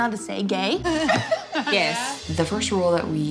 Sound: laughter

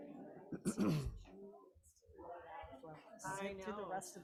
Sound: people chattering

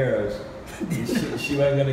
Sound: chuckles

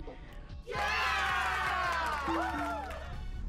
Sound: applause

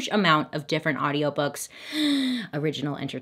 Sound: gasps

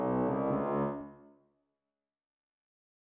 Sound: music stops

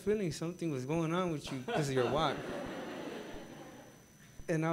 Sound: gathering laughing

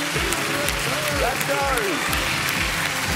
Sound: cheering

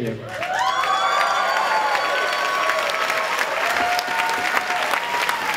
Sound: cheers and clapping

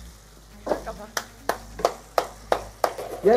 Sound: claps

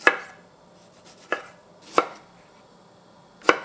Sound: chopping

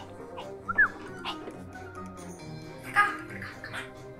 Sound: whistles

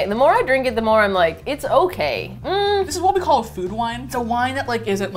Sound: hums doubtfully

